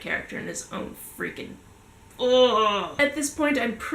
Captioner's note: frustrated noises